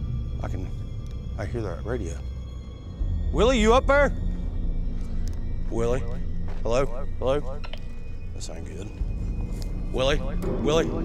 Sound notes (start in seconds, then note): 0.0 suspenseful music playing; 6.9 echoing; 10.2 echoing